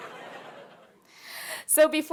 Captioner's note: audience laughing; laughing